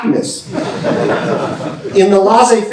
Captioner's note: laughter